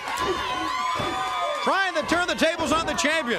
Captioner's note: crowd chatter